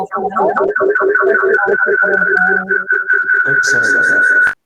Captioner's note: chatter